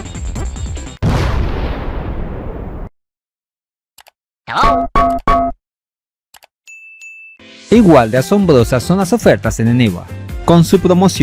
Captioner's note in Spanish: campana